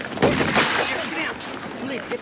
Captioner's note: shot firing